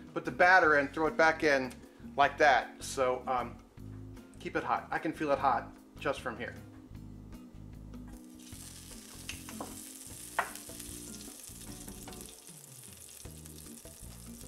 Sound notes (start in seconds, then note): 2.4 fingers snap; 8.1 sizzling